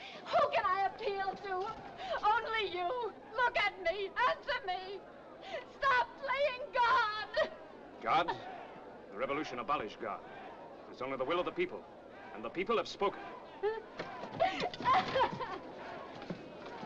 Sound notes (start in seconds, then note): 7.2 crying; 14.4 Mrs. Danton cries